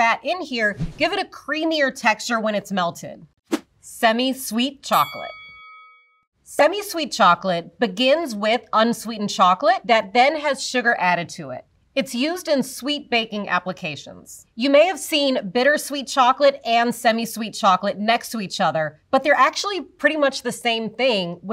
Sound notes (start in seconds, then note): 4.9 bell dings